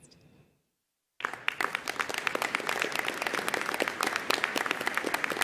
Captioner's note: audience applauding